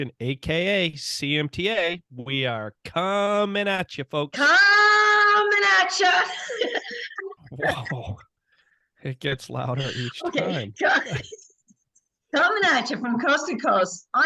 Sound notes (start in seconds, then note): 5.9 laughing